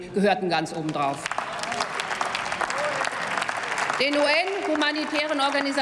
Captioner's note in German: Applaus